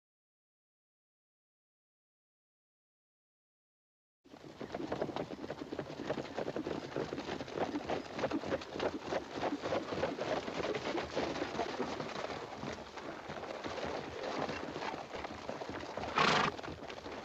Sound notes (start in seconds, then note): 9.2 horses walking; 16.1 horse huffing softly